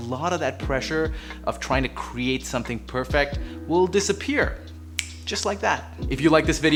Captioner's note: snap